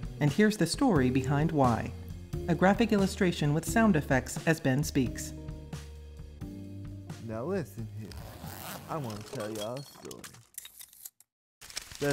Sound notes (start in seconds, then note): 7.9 unzipping